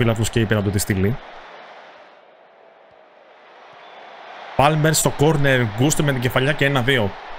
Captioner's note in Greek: χειροκρότημα